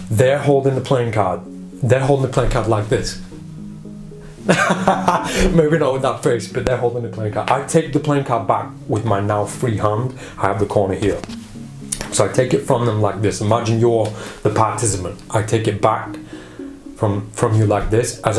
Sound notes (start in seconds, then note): 4.4 laughter